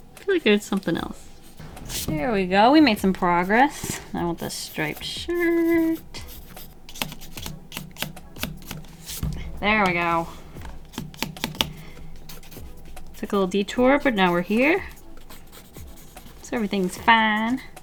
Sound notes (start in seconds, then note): 8.1 thug-thug thug; 10.8 thug-thug-thug